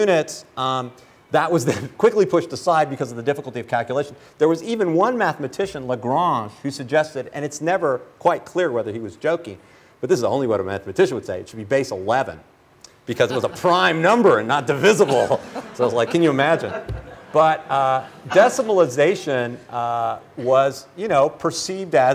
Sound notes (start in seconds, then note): 14.8 laughter